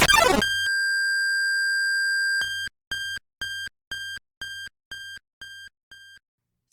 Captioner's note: Undertale battle start noise; Deltarune Sword Route TV startup noise